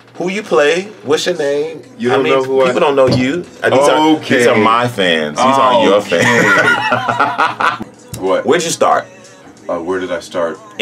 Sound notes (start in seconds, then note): 6.0 laughs